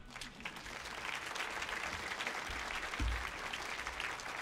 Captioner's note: audience applauds